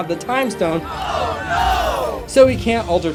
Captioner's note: crowd screams oh no!